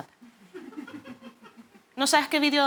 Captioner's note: laughter